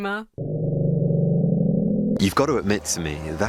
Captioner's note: recording of growling plays